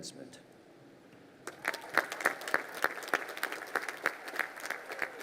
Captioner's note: crowd applauding